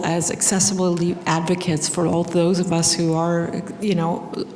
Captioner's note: none